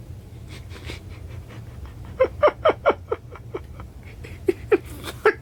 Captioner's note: laughing